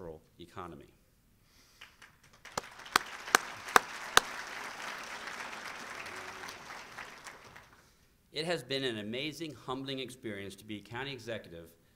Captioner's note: applause